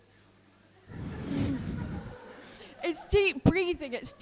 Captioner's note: group laughing